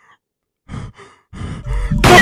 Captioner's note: pant